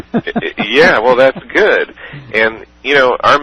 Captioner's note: laughter